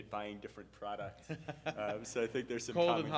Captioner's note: laughing